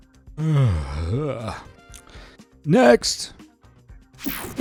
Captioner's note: yawns